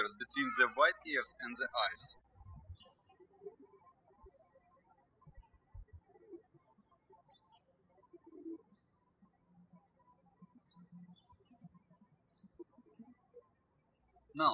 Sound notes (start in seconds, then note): 3.2 birds chirping